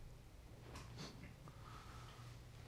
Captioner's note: scoffs